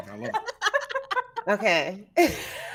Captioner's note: people laughing